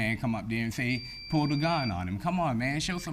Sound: bell chiming

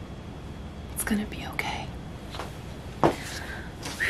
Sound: whispers; whew

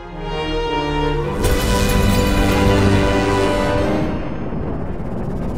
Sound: music intensifies; time travel sounds

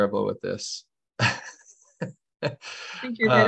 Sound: laughter

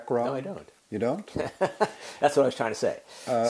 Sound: laugh

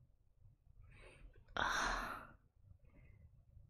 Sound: sighs

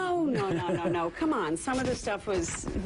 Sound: laughter

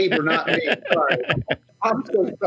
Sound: laughs

